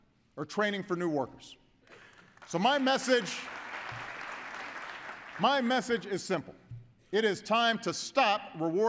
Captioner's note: applause